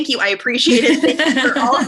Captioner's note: laughter